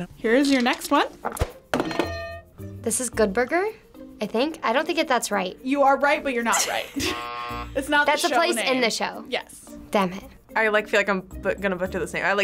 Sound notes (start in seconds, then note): 1.9 bell rings; 6.9 buzzer rings